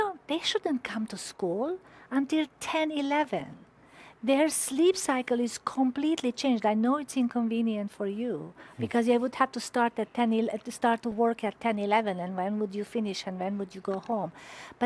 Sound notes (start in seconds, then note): 8.8 chuckles